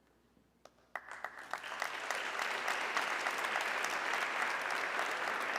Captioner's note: audience clapping